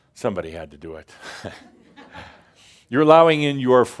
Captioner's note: a few chuckles